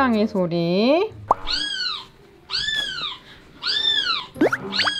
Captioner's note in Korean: 아기 고양이 소리